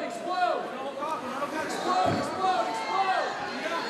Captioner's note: crowd yelling